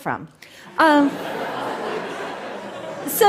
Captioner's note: laughter